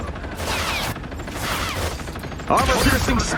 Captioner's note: character grunts; guns firing; character grunting